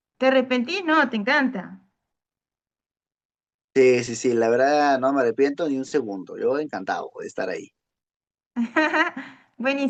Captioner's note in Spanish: risas